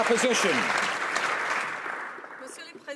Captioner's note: some Applause